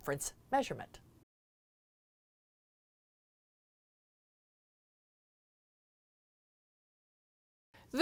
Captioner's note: no Sound Present